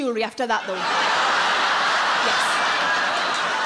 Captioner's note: audience laughing